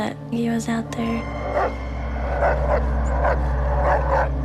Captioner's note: dog barks